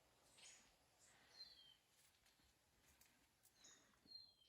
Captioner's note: birds chirping